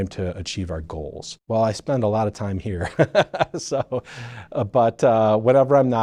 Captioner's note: laughing